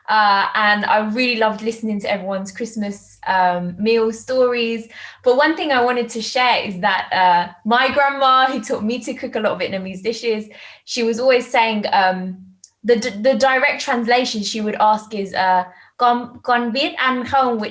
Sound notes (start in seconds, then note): 15.2 speaking in foreign language